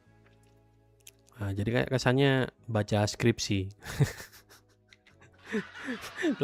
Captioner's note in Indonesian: tertawa